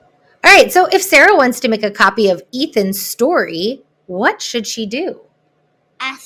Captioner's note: child's voice